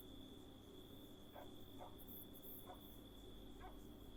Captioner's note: dog barks